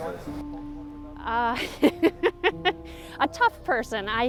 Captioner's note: laughs